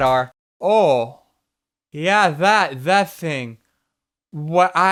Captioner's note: heavy accent